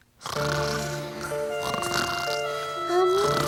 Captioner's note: snoring